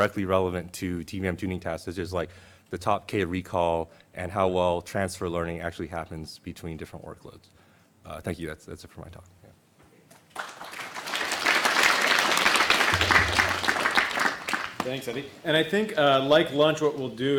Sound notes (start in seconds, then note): 10.1 applause